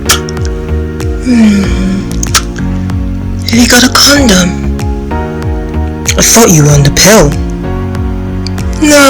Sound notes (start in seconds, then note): 1.1 moaning